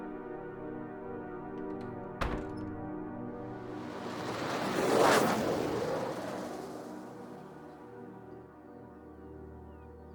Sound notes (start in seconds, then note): 3.4 ship whooshing